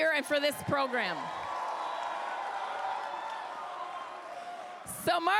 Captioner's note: crowd cheers